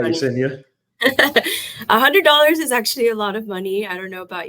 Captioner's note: chuckles